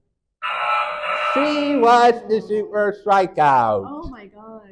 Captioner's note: error sound effect